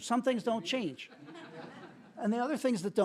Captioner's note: laughter